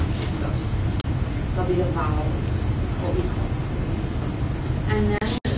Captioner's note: non-english